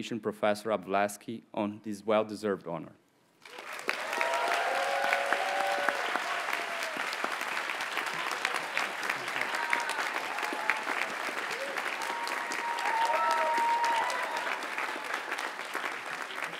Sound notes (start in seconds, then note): 3.4 audience cheers and applauds